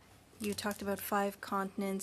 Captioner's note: speaking French